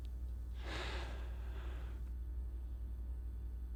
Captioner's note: sighs